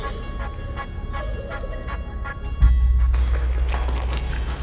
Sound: crying

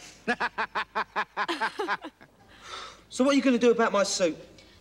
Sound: laughter

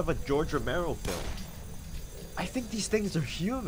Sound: gunshot

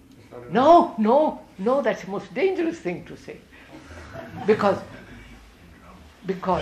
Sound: laughter

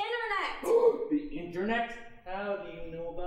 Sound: gasping

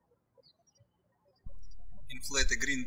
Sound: birds chirping

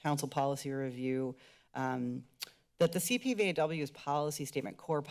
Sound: clicks tongue

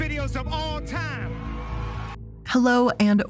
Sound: audience cheers

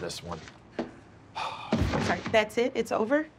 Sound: sighs

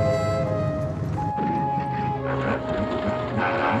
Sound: engine stutters

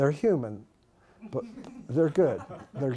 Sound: laughter

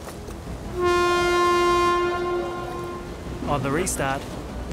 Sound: starting klaxon

